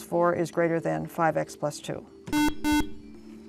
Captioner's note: buzzer